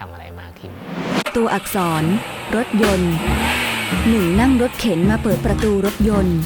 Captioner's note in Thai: เสียงสตาร์ทรถ